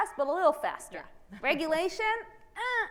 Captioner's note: laughs